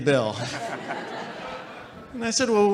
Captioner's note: audience laughing